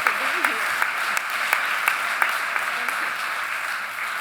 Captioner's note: audience cheering and applauding